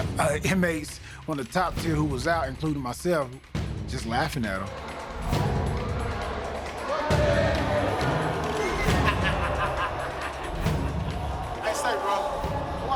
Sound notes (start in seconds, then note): 0.0 intense music; 5.0 intense music; 8.6 laughter